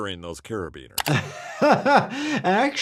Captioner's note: laughing